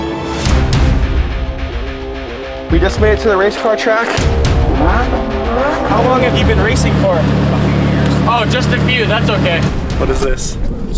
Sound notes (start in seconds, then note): 0.5 dramatic music; 4.0 engine revving